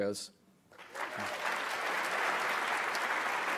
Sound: clapping

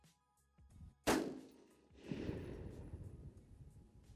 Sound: gun banging

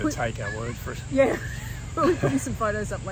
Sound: laughs

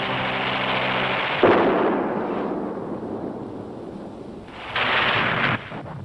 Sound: explosions thundering; explosion booming; machine gun rattling

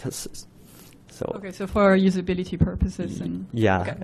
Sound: woman's Voice

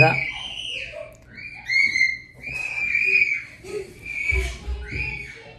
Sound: children screaming continues

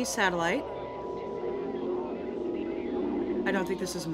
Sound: static and distortion

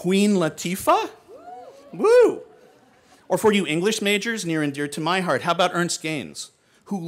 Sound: hooting; hoots

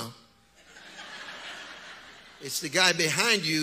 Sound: audience laughs

